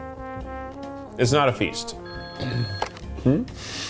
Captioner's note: phone rings